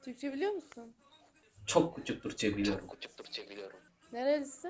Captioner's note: Turkish; Turkish